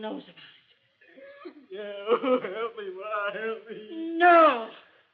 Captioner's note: sobs